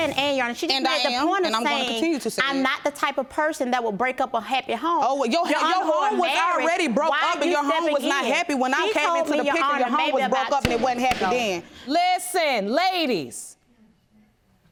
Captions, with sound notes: Since she said, "A", Your Honor, she just made the point of saying I'm not the type of person that would break up a happy home. Oh, your home was already broke up and your home was not happy when I came into the picture. Your home was broke up and it wasn't happy then. (GAVEL BANGING) Listen, ladies.